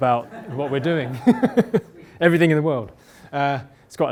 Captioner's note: laughter